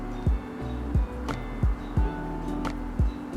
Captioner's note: bird chirping